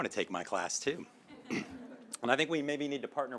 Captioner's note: laughter